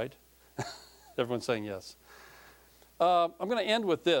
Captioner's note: chuckling